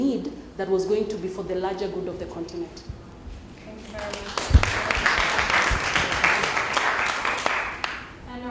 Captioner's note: applause